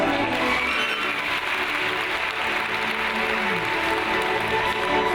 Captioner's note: audience applauds